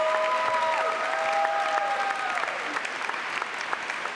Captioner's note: applause